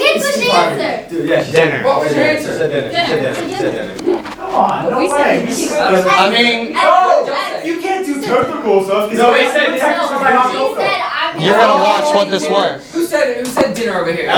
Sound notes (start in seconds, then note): 5.8 talking